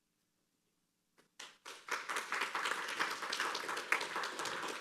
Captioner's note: applause